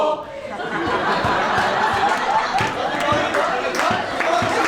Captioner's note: audience laughs and claps